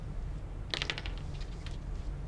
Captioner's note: pen clatters